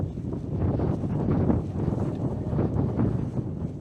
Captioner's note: wind howling